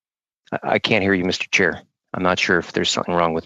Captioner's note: speaking French